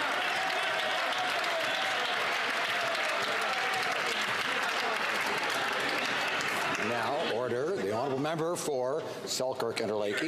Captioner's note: some Applause